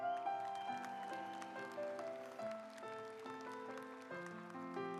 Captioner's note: audience applauds